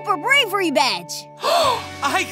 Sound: gasping

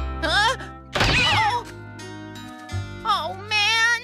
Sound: crash!

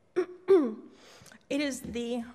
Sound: clears throat

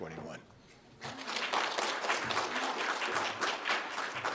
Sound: audience claps

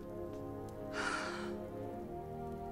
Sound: sighs

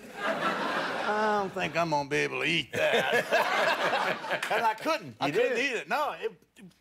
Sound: laughter

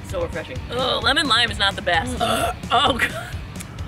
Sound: burrp

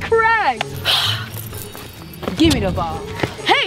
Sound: sigh

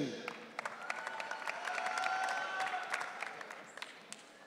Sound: audience cheering

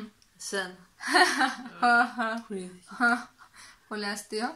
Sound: laughter

